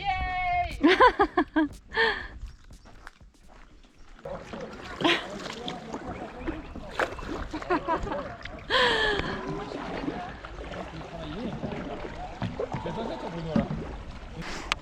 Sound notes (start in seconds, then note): 0.7 giggles; 7.4 laughing